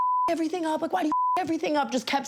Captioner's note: beep